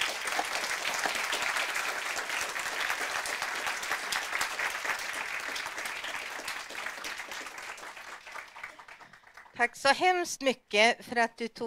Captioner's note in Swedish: Applåder